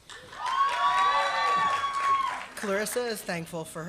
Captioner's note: applause